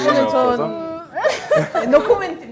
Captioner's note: laughter